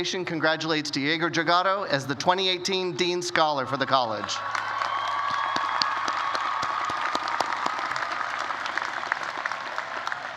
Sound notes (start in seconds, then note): 4.1 cheers and applause